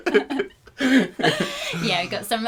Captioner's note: laughter